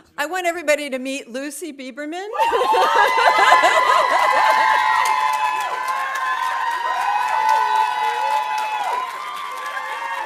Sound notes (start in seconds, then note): 2.4 audience cheering; 3.0 audience applauding